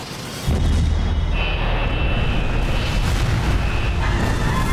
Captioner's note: thud; fire; screaming